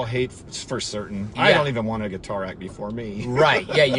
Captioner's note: laughs